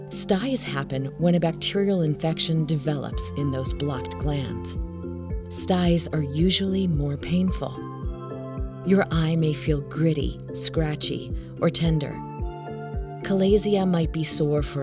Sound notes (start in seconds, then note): 2.2 chime sounding; 7.4 chime sounding; 14.3 chime sounding